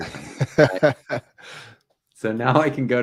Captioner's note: laughing